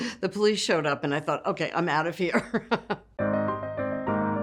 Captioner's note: laughs; bright music